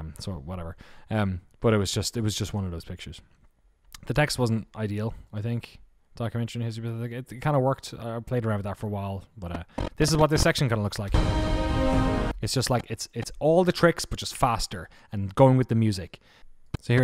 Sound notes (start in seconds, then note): 9.6 distortion; 11.1 music swells